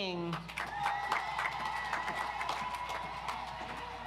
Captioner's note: audience applauds